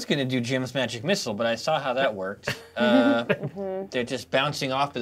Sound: co-hosts laughing

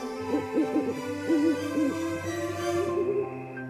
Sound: owl hooting

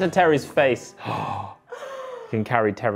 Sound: gasping

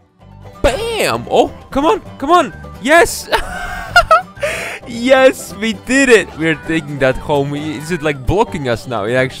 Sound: girly laugh

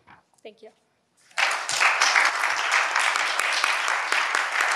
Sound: audience applauds

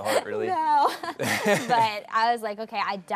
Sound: laughs

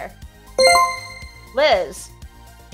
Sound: chime rings

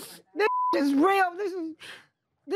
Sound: swearing

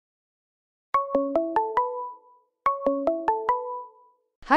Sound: phone ringing

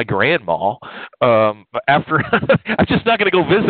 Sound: laughs

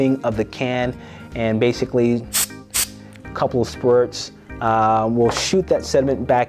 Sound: can spraying

